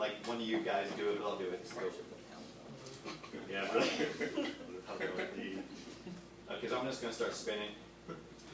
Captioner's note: laughter